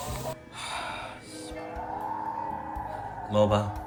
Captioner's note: sighs for some reason